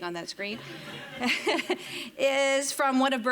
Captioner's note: audience laughing